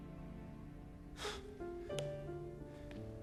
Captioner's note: inhales sharply